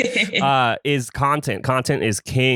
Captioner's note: laughs